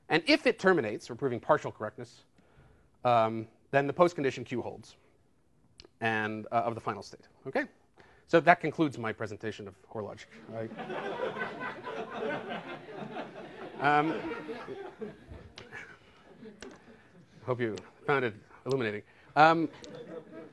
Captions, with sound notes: And if it terminates, or proving partial correctness, then the postcondition queue holds-- and-- of the final state, OK? So that concludes my presentation of Hoare logic, all right? [LAUGHTER] I hope you found it illuminating.